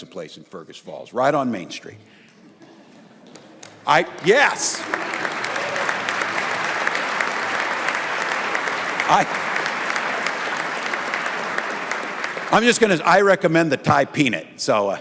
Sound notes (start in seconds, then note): 10.2 applause